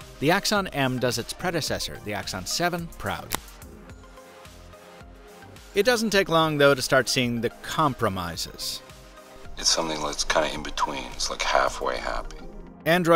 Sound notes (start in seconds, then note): 3.2 clicks